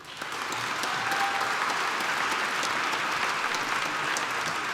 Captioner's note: applause